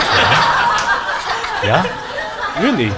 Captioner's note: audience laughs